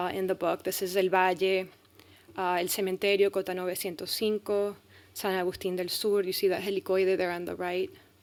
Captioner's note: speaking spanish